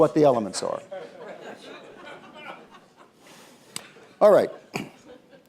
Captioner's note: laughter